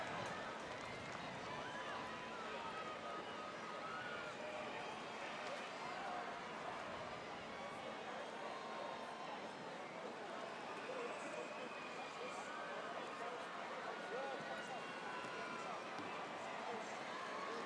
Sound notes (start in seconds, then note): 3.3 crowd noise